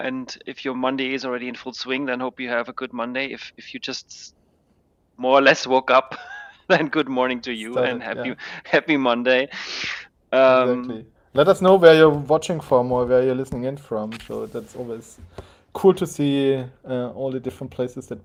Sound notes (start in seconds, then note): 6.1 chuckling